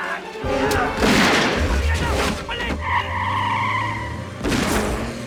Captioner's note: Shouting In Korean